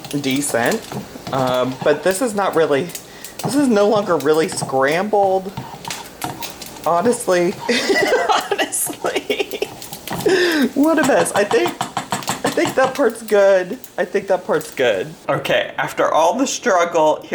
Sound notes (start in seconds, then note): 7.6 laughs